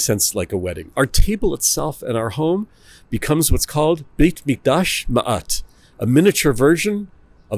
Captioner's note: Hebrew